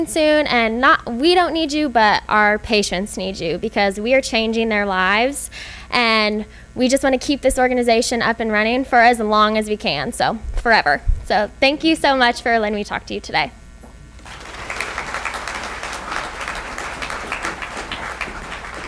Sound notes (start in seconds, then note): 14.2 applause